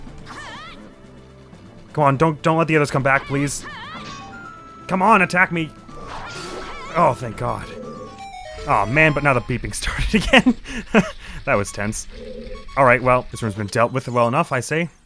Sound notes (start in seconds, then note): 7.5 wounded beeping begins; 9.8 laughs